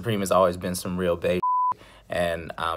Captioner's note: beep